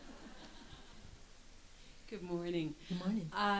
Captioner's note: audience laughs